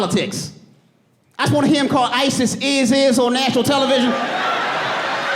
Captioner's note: audience laughing